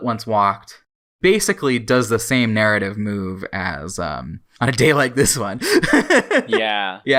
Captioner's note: laughs